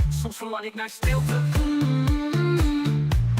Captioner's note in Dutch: mmm, mmm